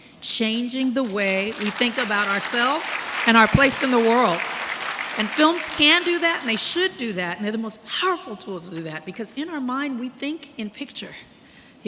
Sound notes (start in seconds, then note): 1.0 audience clapping